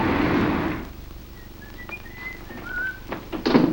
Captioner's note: whistles